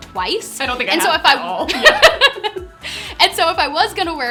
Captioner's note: laughs